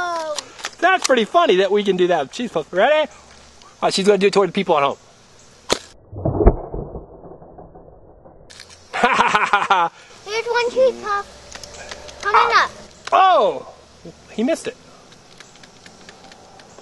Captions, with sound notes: - [Voiceover] Whoa. - [Voiceover] That's pretty funny that we can do that with cheese puffs. Ready? She's gonna do it toward the people at home. (laughing) - [Voiceover] Here's one cheese puff, coming up. - [Voiceover] Oh, he missed it.